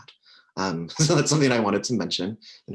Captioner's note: chuckles